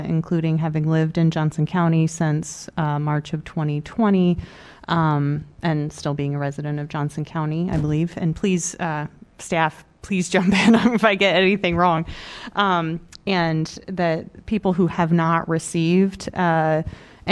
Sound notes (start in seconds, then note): 10.4 laughter